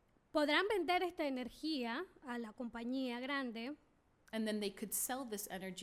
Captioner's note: speaking spanish